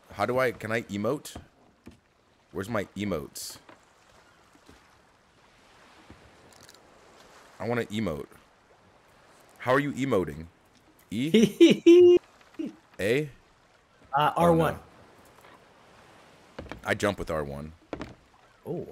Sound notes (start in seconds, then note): 11.2 laugh